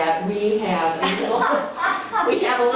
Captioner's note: laughing